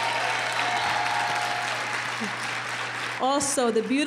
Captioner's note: applause